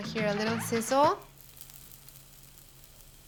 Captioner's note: sizzling